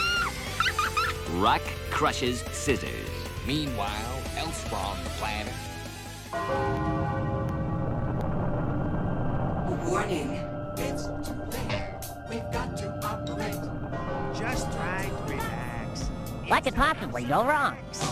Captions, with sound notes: Rock crushes scissors. Meanwhile, elsewhere on the planet ... [OMINOUS BELLS AND RUMBLING] "WARNING!" (singing) It's too late. We've got to operate. Just try to relax. What could possibly go wrong?